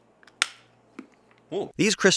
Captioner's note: chocolate snapping